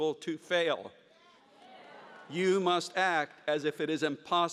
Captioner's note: audience cheers